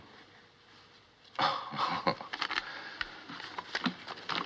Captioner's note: chuckles